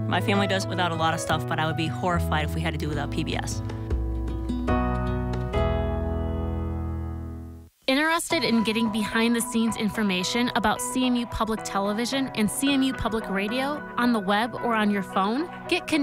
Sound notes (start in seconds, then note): 3.7 light music; 8.0 voiceover